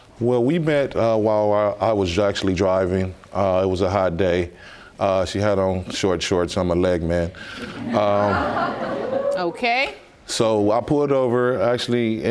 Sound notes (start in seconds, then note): 4.9 audience laughs